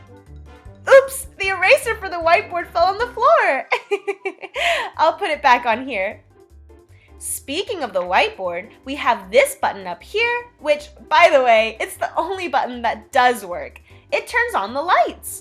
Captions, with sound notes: Oops, the eraser for the whiteboard fell on the floor (laughs) I'll put it back on here Speaking of the whiteboard we have this button up here, which by the way It's the only button that does work. It turns on the lights!